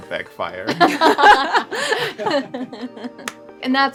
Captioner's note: laughter